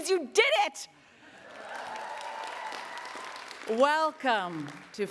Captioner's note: attendees cheering and applauding